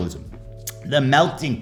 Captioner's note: tongue smack